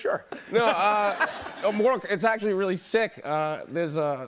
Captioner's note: laughter